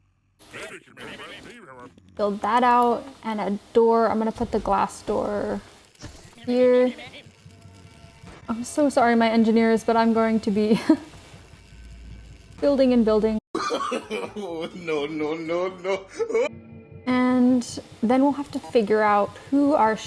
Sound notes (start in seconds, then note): 10.8 nervous laughter; 13.6 laugh